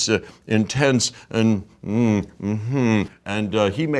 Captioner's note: imitating mumbling sound